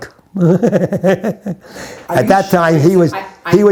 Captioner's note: chuckles